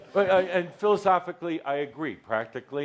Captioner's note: lots of laughter